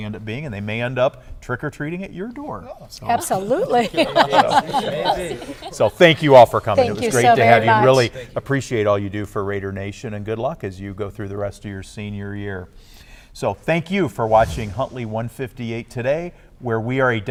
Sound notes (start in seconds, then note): 3.4 laughter